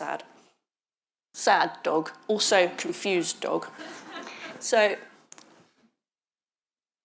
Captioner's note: audience chuckling